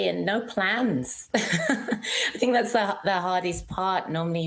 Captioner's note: laughs